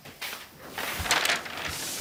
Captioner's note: rustling